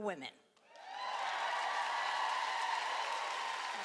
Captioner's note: cheering